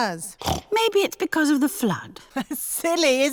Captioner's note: snorts; laughs